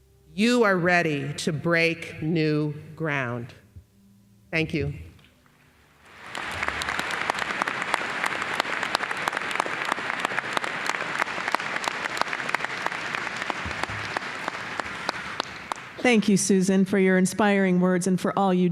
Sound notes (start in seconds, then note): 6.0 applause